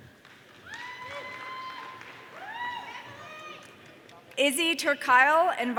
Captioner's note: audience cheering